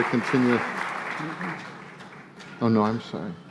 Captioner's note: applause